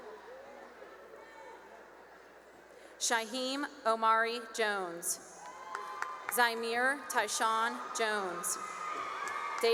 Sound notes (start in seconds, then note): 0.2 cheering; 5.3 cheering and applause; 8.4 cheering